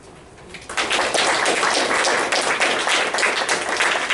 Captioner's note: applause